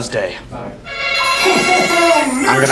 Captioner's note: buzzer buzzes